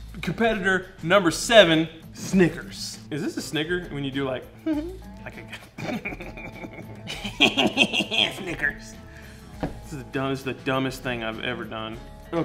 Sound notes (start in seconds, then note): 5.3 giggles; 5.4 snickering